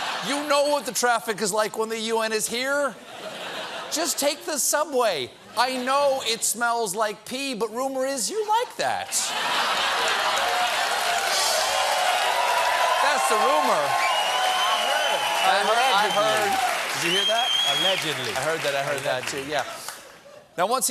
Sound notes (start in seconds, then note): 8.2 cheers and applause; 9.1 laughter